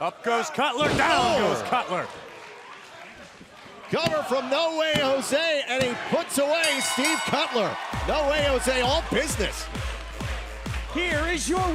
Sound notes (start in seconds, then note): 6.6 bell ringing